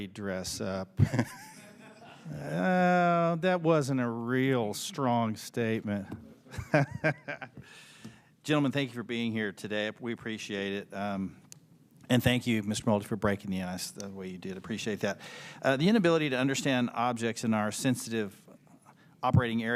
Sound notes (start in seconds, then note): 8.4 laughter